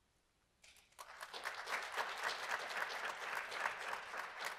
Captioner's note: audience applauding